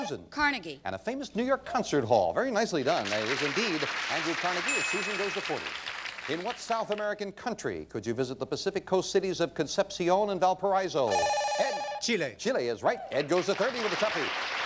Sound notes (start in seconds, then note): 11.1 bell rings; 13.1 audience applauding